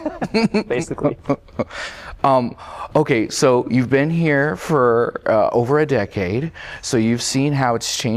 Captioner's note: laughter